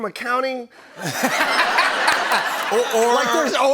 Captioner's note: laughter